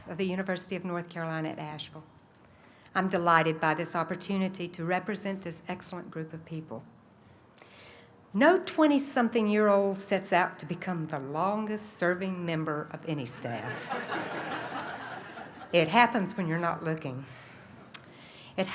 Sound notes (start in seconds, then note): 13.6 laughter